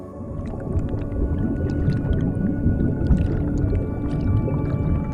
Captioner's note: water bubbling